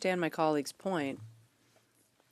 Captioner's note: speaking French